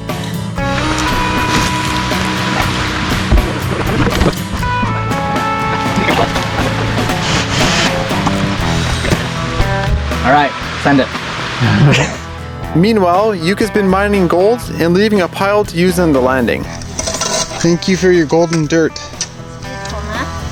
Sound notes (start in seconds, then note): 0.9 water rushing; 6.3 sawing